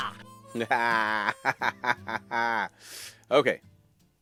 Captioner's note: laughs